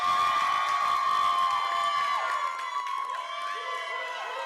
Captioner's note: applause